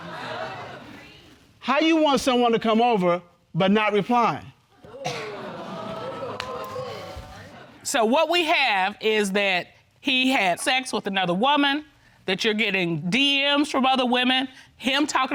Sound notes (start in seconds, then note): 0.2 audience exclaims; 5.3 audience exclaims